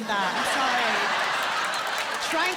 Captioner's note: laughter